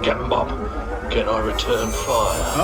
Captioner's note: beeps and harsh tones as weapons power up